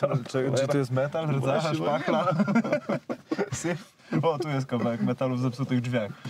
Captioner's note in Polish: śmiech